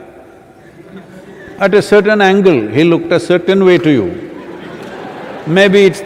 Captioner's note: laughter